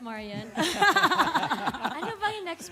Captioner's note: chuckles